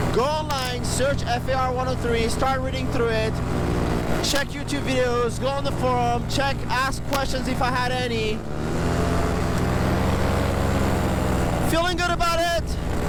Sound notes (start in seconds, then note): 8.9 motor revving